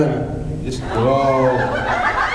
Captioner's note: laughs